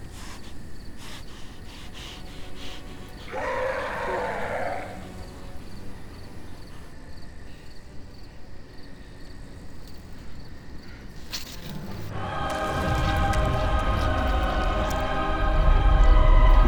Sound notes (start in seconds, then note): 0.1 soft tense music; 3.3 creature roaring